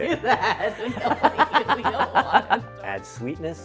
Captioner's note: laughing